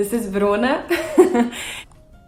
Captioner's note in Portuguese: Risadas